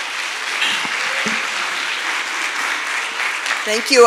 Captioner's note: clapping